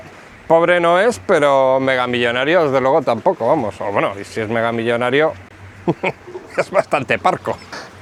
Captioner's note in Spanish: risas